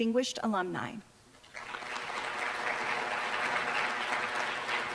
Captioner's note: applause